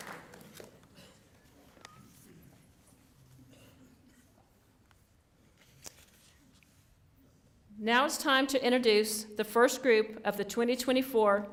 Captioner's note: applause